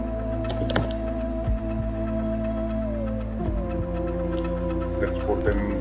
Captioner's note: keyboard clicking